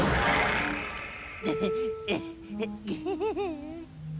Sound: nervous laughter

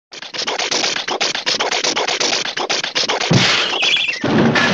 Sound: car sputtering noises

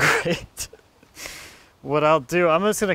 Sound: laughing

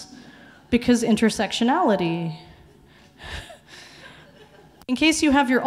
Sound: laughs

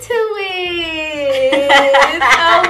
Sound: laughing

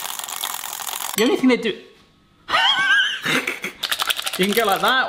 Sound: laughs

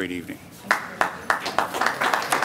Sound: applause

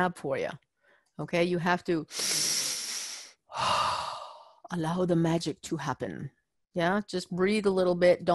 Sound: breathing

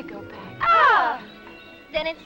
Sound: both groaning

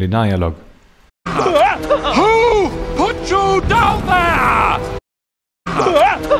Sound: screams

